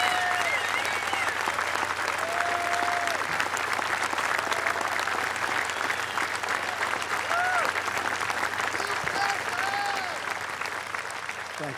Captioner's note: applause